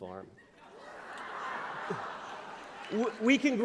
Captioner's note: laughter